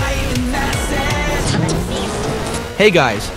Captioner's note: radio tuning sounds